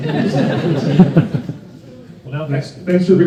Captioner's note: crowd laughs